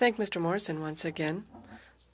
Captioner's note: speaking French